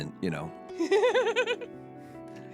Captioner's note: laughing